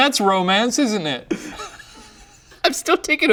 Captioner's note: both laughing